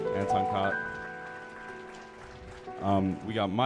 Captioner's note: audience applauding